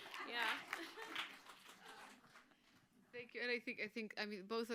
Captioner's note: applause